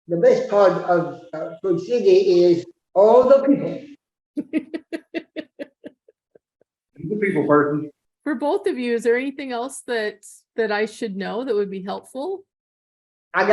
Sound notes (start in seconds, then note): 4.4 laughing